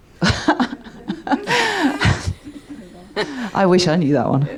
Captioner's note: laughing